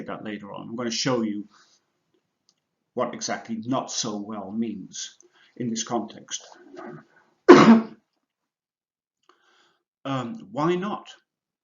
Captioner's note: cough!